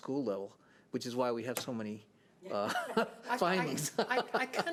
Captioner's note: laughing